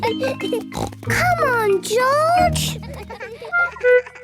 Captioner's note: laughs; snort